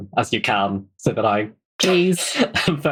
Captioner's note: laughs